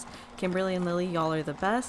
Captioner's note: sewing machine whirrs